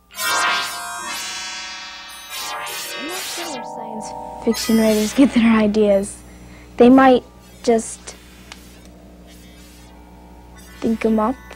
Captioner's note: siren